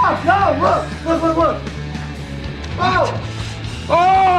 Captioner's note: screams; upbeat music